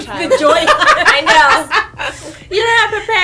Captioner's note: laughter